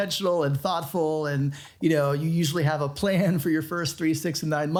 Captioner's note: chuckles